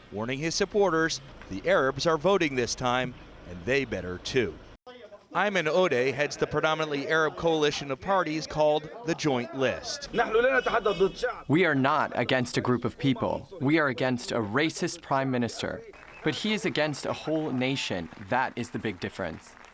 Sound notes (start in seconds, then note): 11.1 through translator